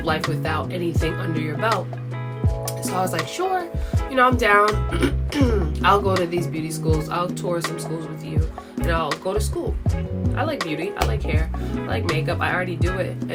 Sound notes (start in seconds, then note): 4.9 clears throat